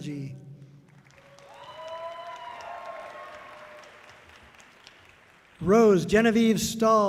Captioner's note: audience cheering loudly